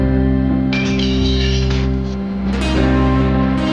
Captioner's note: metal clanging